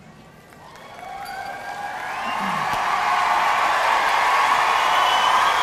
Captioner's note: audience cheering and applauding